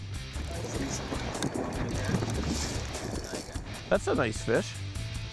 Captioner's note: wind rumbling